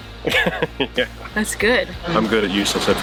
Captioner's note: laughing